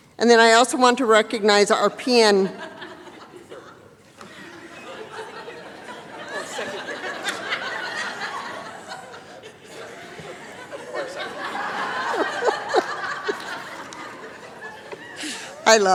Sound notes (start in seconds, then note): 5.7 chatter; 11.7 laughter